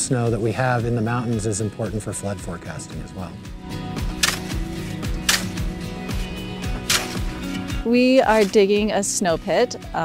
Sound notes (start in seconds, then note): 3.6 upbeat music; 5.9 shovel digging